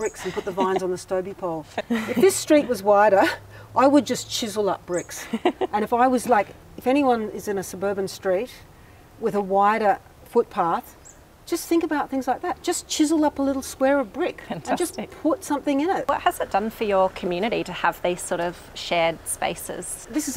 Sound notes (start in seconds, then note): 5.1 laughs